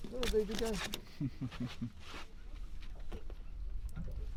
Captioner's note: chuckles